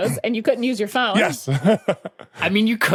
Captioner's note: laughs